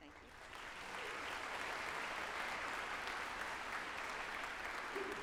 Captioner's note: group applauding